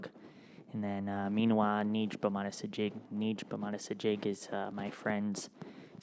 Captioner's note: speaks in Ojibwemowin